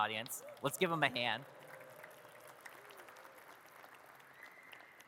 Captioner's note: audience claps